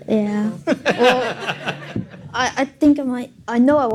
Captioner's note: laughing